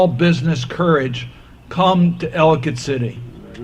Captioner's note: none